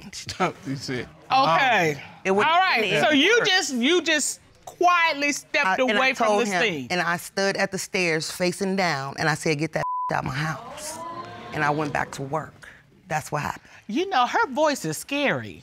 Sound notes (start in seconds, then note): 10.5 audience exclaims